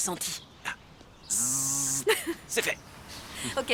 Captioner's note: imitates buzzing